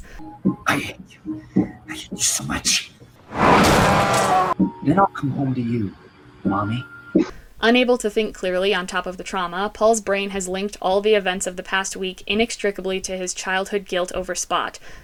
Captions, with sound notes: "I hate you. I hate you so much." [BUS HONK] "Then I'll come home to you, Mommy." Unable to think clearly on top of the trauma, Paul's brain has linked all the events of the past week inextricably to his childhood guilt over Spot,